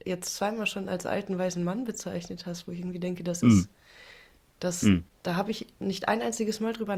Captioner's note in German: räuspern